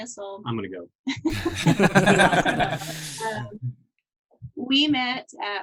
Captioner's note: all laughing